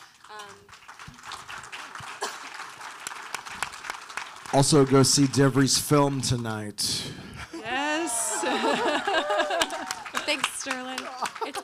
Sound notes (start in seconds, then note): 0.0 audience applauding; 7.6 all cheering and applauding